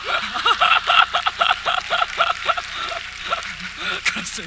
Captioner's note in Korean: 박수